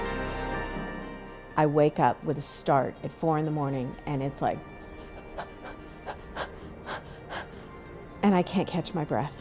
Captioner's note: gasping for air